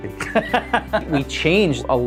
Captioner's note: laughs